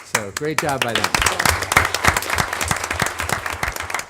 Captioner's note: applause